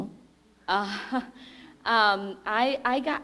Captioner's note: laughs